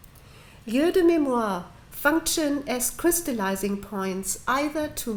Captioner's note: french